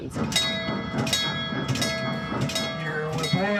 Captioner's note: bell ringing